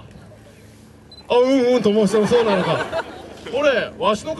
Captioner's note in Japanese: 客 笑・笑・笑